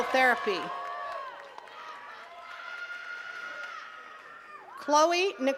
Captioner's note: attendees cheering and clapping